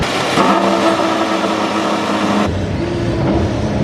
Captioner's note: car engines rev